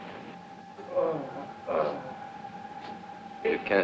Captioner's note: Paul groaning